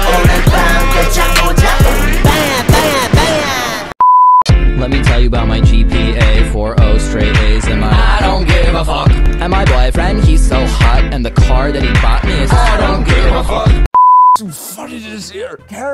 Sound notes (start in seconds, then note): 4.0 beep; 13.9 beep